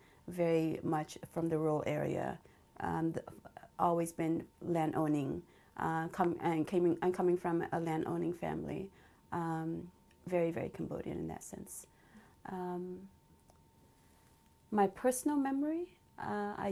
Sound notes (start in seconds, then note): 11.9 pauses for 3 seconds